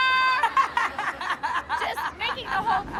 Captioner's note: laughing